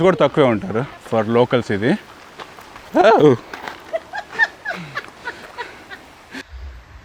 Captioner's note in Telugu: నవ్వు